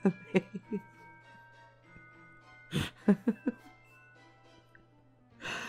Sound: laughing

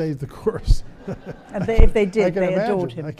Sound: audience laughs

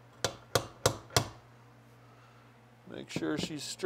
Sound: hammer tapping

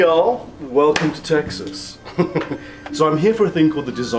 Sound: laughing

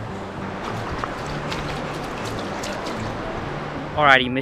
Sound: water splashing

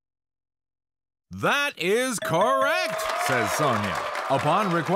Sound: audience cheers

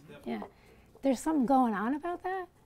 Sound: voiceover

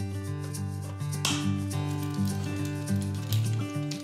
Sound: click!

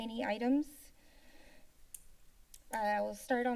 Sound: silence

